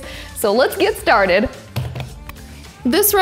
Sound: hands tapping

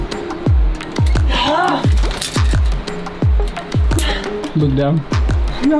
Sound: groans

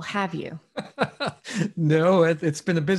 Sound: laughs

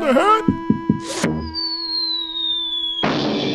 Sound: falling and crashing noise

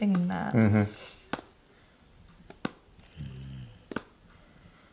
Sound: hands tapping

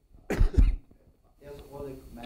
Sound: male coughs

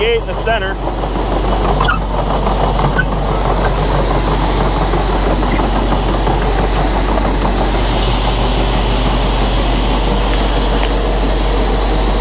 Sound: engine noise

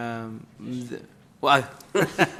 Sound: laughter

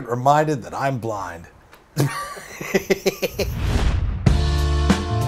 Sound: laughs

